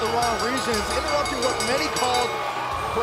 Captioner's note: bell